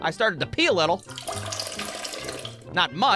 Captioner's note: trickling noise